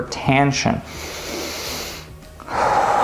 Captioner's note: breathe in; breathe out